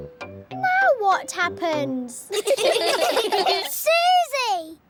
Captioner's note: all giggling